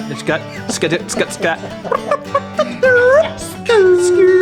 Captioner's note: babbles